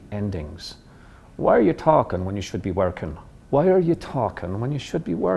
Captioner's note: in Irish accent